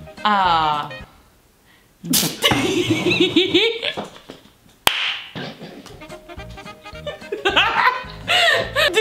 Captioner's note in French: rires